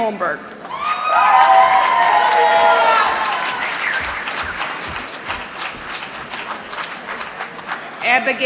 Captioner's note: applause